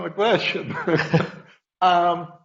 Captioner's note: laughs